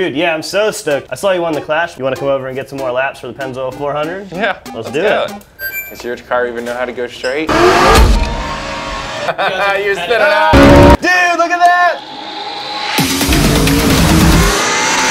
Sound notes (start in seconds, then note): 7.5 engines roaring; 12.0 intense music playing; 12.0 engines roaring